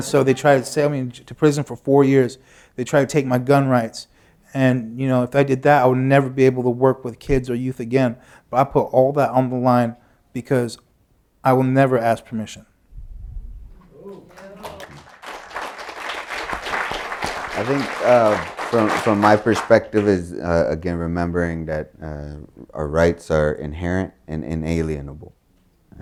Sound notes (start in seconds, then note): 17.1 applause